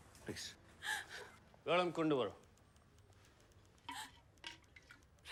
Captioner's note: speaking foreign language